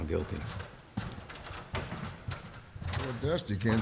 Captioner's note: clattering sound